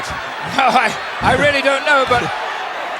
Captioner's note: chuckling